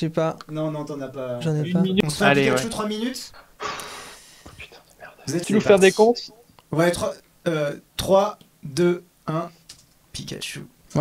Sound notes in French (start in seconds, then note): 4.0 chuchote